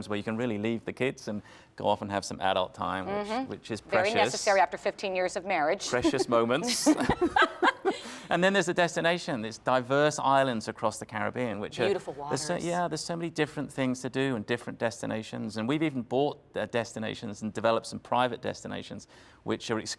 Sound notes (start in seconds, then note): 8.0 laughter